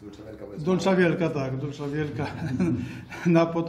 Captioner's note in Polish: śmiech